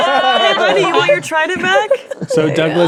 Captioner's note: players laughing